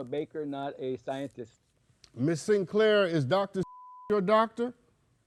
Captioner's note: beep